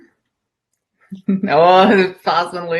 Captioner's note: chuckles